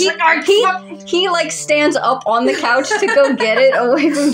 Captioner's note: laugh